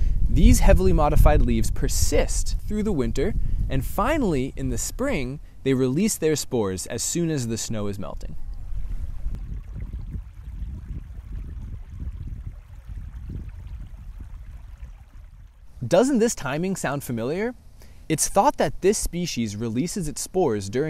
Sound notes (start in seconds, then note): 7.4 running water